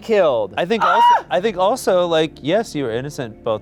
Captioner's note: screaming